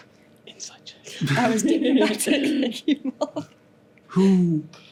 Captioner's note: whispers